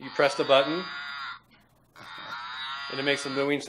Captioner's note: cow mooing